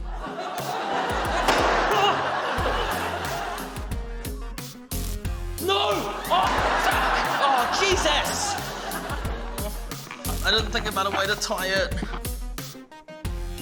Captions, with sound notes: (LAUGHTER) (POP!) (EXCLAIMS) No! Oh! Fuck! Oh Jesus! I didn't think about a way to tie it.